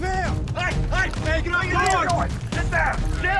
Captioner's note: men shouting